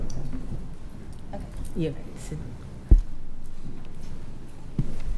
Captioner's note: speaking quietly